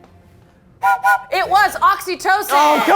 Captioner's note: whistle blows